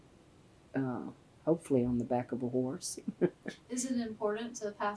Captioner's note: laughs